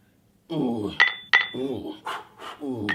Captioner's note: clang clang; clang clang clang; whoo whoo